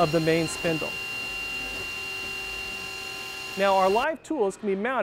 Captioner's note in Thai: เสียงการเจาะ